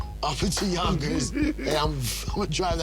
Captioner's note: both giggle